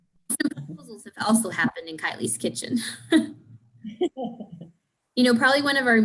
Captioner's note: laughs